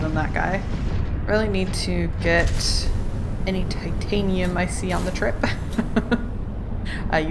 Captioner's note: laughs